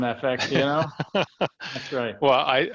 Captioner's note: laughing